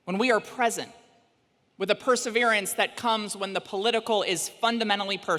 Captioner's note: none